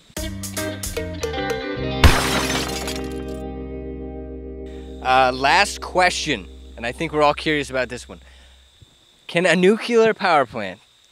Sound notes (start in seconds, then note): 0.2 plucky string music; 2.0 crashing noise